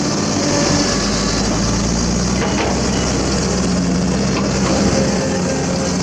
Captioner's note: hydraulic Sound